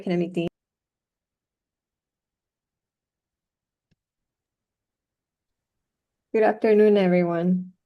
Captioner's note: silence